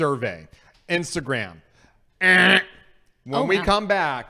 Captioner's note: buzzer noise